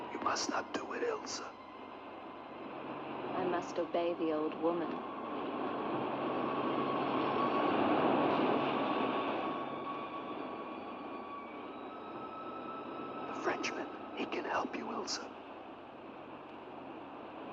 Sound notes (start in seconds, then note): 5.6 eerie music; 5.6 waves rolling